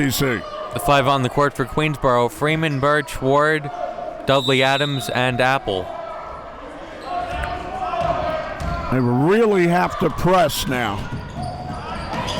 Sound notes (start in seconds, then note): 7.3 whistle blows